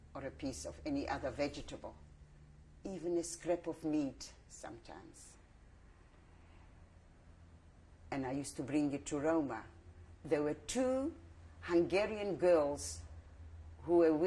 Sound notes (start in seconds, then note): 4.9 pauses for 3 seconds